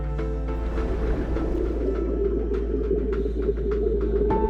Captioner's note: water and respirator sounds